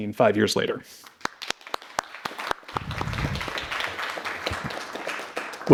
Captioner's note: audience clapping